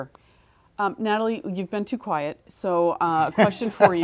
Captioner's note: laugh